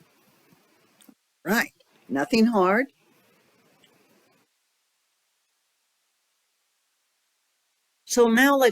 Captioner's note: 5-second silence